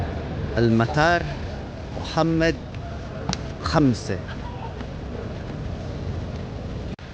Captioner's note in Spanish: hablando árabe